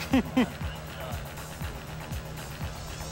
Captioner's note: l lauaughghs s